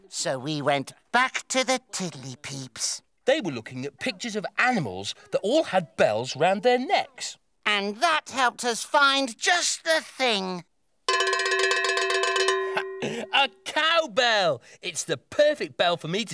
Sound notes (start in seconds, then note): 11.0 bell ringing loudly